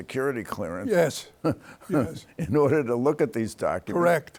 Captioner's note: chuckles